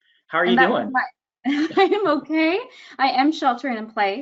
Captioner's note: laughs